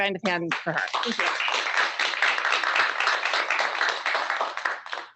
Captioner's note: audience applauds